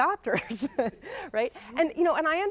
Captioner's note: chuckling